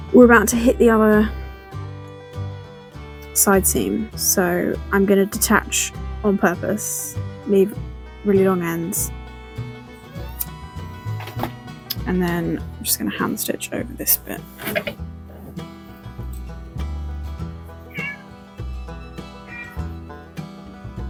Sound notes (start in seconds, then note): 17.8 distant cat honks